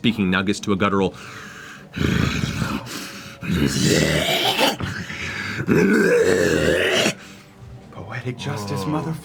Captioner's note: heavy breaths and growling